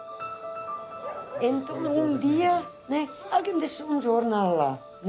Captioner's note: Portuguese spoken audio